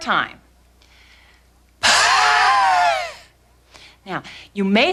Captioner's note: breathing